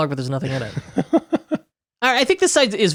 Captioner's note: laughing